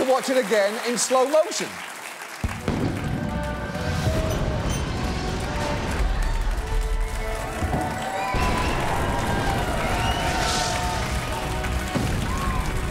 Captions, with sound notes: Feel free to watch it again in slow motion. (AUDIENCE APPLAUDING, CHEERING)